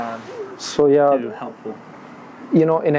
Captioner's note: murmurs